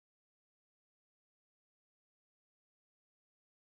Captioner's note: silence